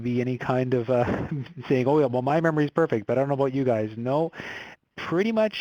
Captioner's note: laughs